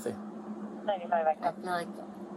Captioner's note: radio chatter